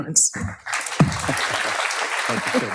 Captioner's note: audience applauds